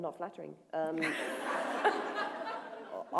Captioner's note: laughter